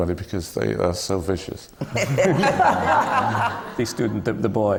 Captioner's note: laughter